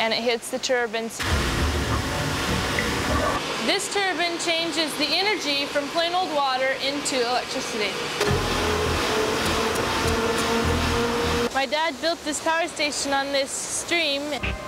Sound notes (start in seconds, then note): none